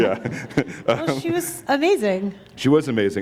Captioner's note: chuckle